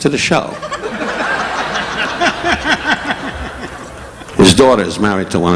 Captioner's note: audience laughing